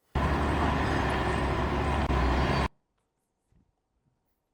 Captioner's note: cars driving